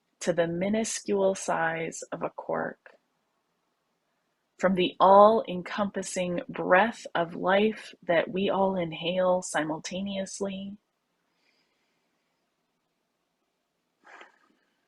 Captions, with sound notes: to the minuscule size of a quark. From the all-encompassing breath of life, that we all inhale simultaneously— (breathes deeply)